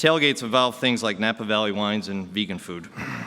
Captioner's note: laughter